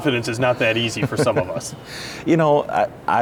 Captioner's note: laughing